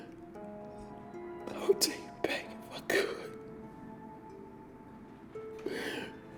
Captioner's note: sobbing